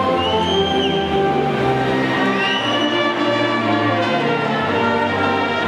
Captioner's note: audience whistles and softly cheers